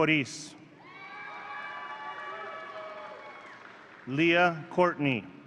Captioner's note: audience cheering